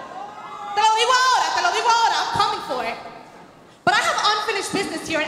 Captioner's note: speaking Spanish